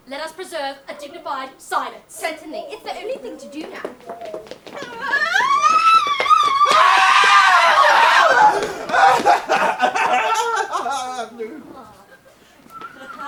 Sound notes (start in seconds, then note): 4.6 Jack and Algernon screaming; 9.1 Jack chuckles